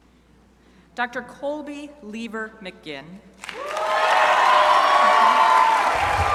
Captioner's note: crowd applauding